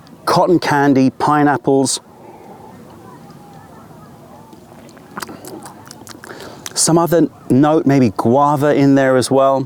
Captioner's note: sips tea